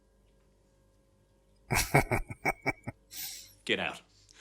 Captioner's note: chuckling